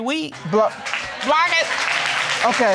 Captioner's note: audience applauding